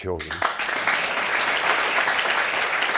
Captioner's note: audience clapping